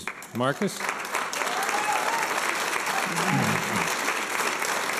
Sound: applause and cheers

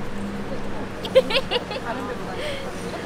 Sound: hee hee

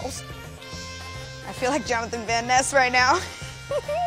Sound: laughs

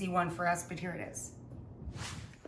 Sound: swooshing

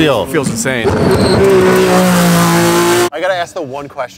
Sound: engine Revving

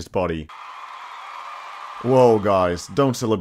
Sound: cheering

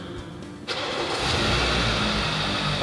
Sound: engine starting

